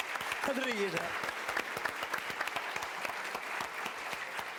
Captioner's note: applause; non-english speech